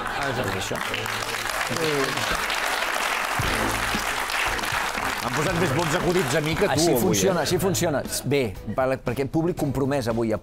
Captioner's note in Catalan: aplaudiments